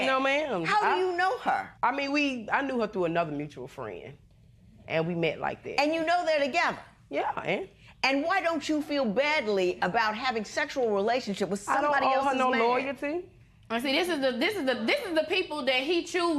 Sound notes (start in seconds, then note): none